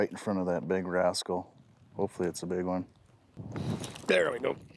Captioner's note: none